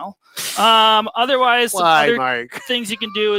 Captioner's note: laughs